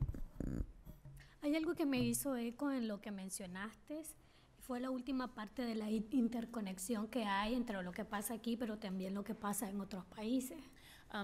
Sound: speaking spanish

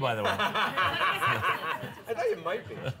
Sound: laughter

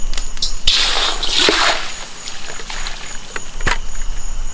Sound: water splashing

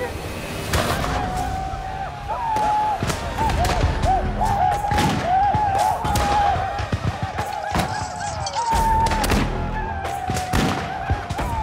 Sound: blackfeet shout, whoop; gunshots

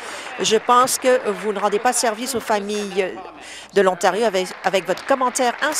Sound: applause

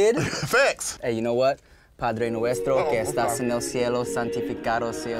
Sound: speaking in Spanish

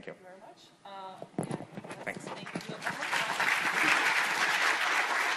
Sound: audience applauding

